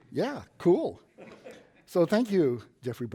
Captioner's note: laughs